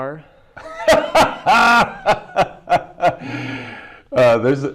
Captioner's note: laughs